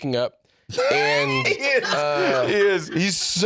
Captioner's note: laughing